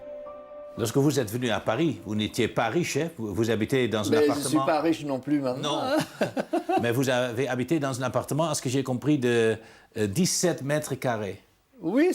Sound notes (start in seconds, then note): 5.6 laughs